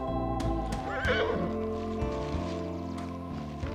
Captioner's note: horse neighing